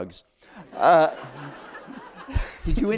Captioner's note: laughter